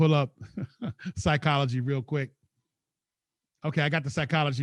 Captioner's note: chuckles